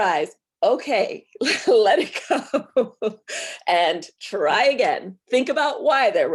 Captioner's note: chuckles